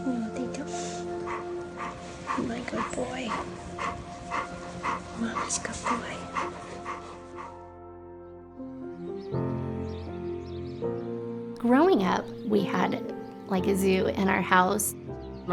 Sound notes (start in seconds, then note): 4.1 dog panting; 8.5 gentle music